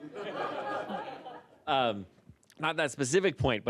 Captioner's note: laughter